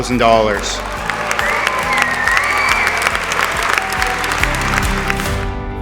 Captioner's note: aaplause